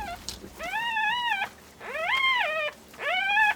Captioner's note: cub crying